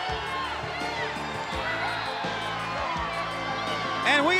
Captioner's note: crowd chatter